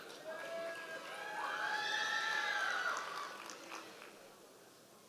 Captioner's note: members of the audience cheering